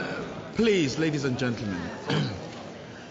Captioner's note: coughs